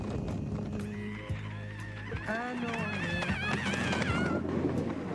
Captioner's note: rider shouting